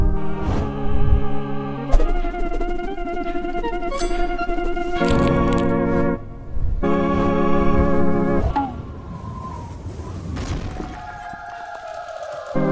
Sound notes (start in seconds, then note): 0.1 suspenseful music; 5.0 bones cracking; 6.2 suspenseful music; 8.5 bonk